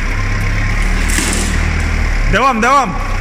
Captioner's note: some crackling